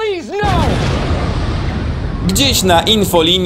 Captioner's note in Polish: boom!